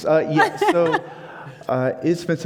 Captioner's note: laughing